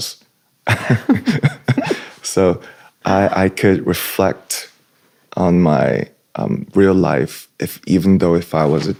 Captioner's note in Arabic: ضحك